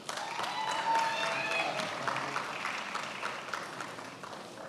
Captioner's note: attendees applauding